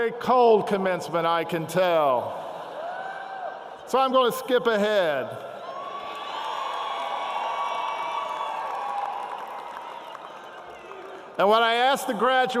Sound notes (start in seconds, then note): 8.7 cheering